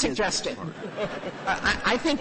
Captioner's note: laughter